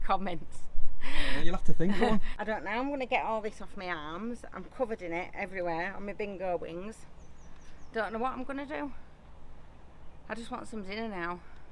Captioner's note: laughing